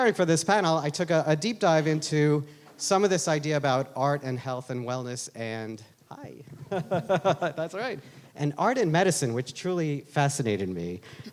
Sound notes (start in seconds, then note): 6.4 laughs